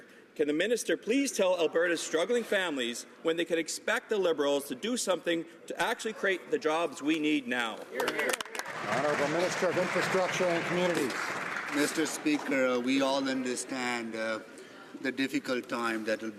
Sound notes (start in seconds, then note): 11.1 some Applause